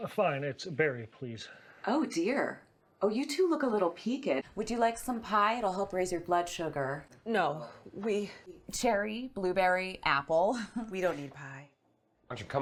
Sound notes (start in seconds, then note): 10.3 laughs